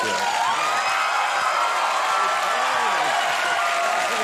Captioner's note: crowd cheers